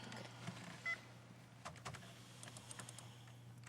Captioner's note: beeping